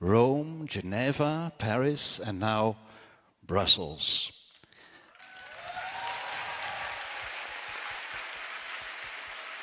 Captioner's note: cheering/Applause